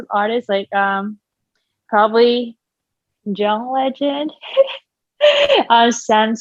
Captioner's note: laughing